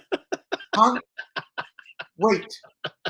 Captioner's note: laughs